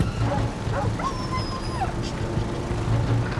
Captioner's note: dog whimpering